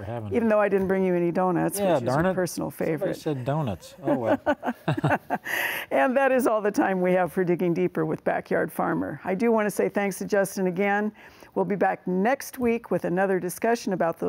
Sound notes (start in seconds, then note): 3.8 both laugh